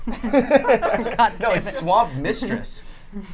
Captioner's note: laughter